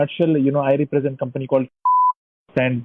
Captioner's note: beeps